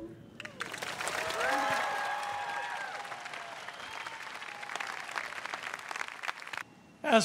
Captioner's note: crowd applauds